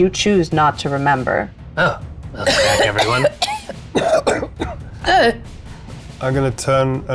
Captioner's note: coughing